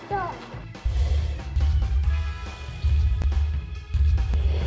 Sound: dinosaur roars

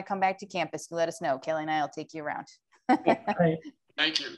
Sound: laughter

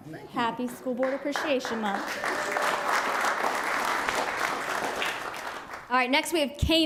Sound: applause

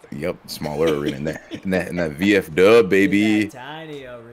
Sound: laugh

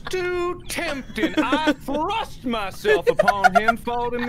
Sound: laughter

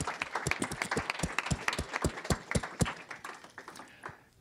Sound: audience applauding

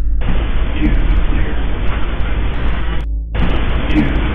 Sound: static hissing

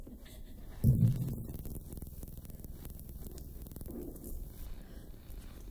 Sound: electronic crackling

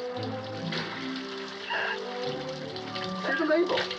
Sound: giggling

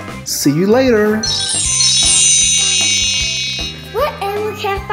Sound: high-pitched chimes

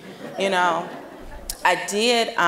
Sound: audience laughing

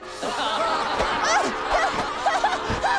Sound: laughing

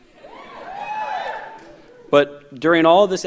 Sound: audience cheers

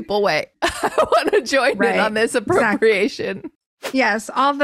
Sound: laughs

